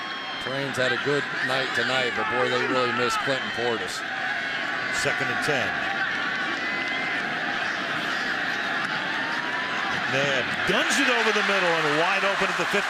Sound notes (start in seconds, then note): 5.6 pa announcement